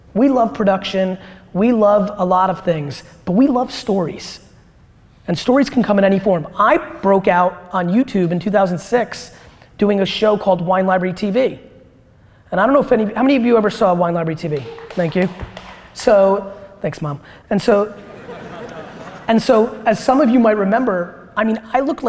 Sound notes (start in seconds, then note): 14.4 light applause; 17.9 audience laughter